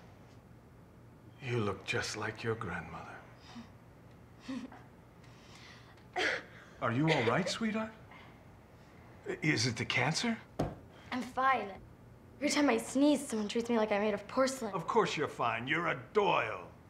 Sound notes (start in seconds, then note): 3.2 faint laughter; 6.8 loud coughing